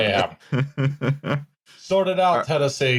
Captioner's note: chuckles